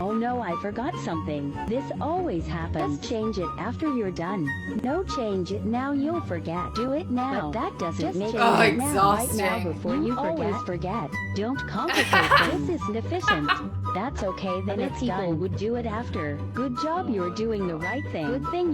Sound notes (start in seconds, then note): 13.2 laughs